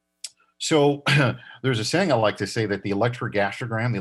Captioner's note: coughs